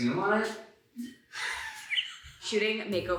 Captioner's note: laughs